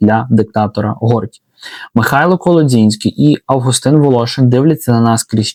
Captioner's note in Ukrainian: сопіння